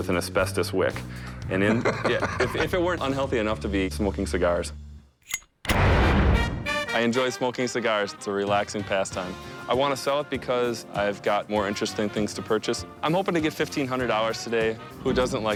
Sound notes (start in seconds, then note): 1.5 laughter